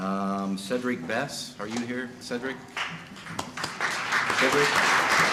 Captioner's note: applause